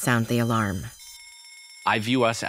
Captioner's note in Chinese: 火災警報器響起